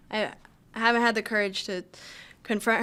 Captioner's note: none